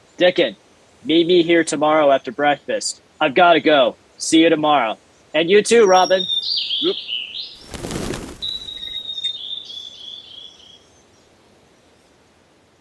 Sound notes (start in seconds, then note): 7.6 wings flapping; 9.0 birds chirping